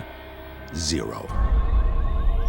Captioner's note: car alarm blares